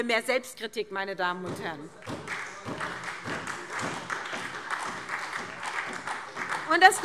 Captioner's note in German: Beifall SPD und DIE LINKE